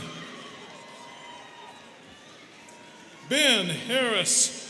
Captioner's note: students cheering